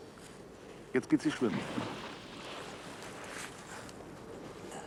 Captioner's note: splashing water